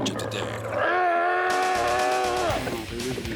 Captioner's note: growling